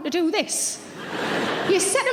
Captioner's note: audience laughing